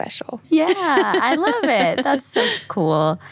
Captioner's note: laughs